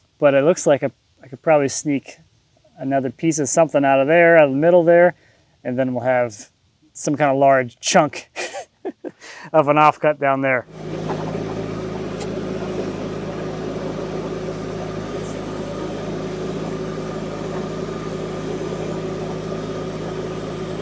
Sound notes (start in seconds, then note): 8.3 chuckles; 11.2 forklift rumbling